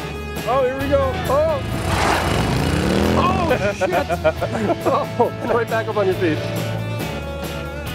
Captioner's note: laughs